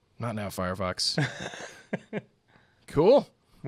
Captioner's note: laughs